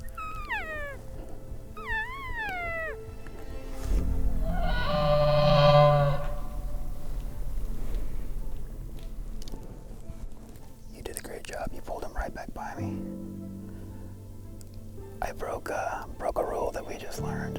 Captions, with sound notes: (Cow calling) (Elk bugling) You did a great job. You pulled him right back by me. I broke a... broke a rule that we just learned,